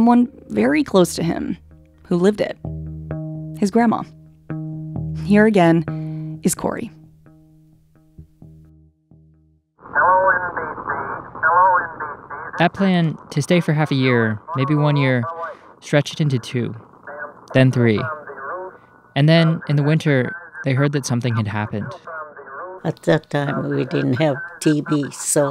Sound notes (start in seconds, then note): 7.2 soundbite of radio chatter